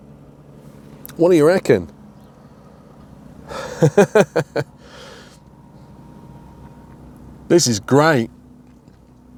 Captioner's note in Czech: smích